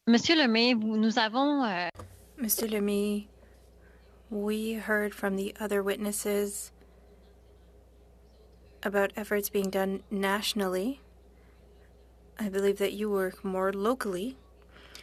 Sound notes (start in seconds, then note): 4.2 speaking French